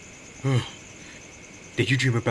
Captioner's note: Gordon yawns